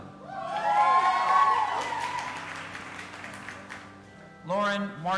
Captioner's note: audience applauding and cheering